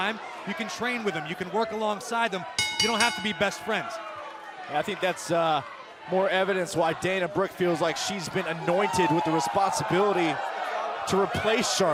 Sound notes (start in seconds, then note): 2.6 bell